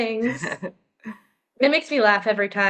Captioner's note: chuckles